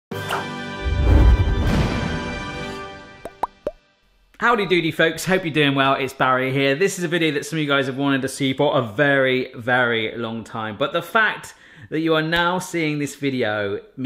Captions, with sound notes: (dramatic music) (logo popping) - Howdy doody folks. Hope you're doing well, it's Barry here. This is a video that some of you guys have wanted to see for a very, very long time. But the fact that you are now seeing this video